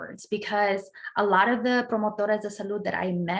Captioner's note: speaking in Spanish